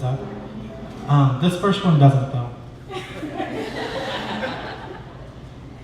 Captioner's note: laughter